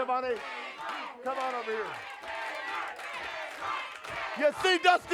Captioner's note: audience chants